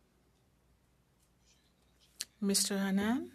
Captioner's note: speaking French